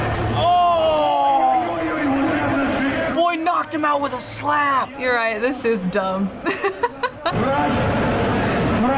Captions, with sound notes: - Ohhh! Boy knocked him out with a slap! - You're right. This is dumb. (laughs)